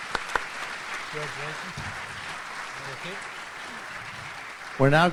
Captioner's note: audience applauds